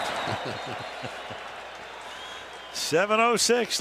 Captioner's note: laughter